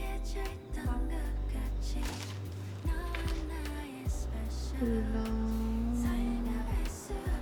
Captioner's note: laughs